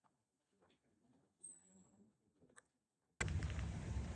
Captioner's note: wind howling